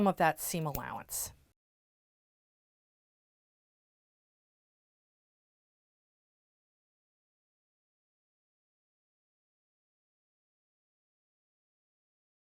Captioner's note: no Sound Present